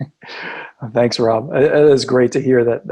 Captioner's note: laughing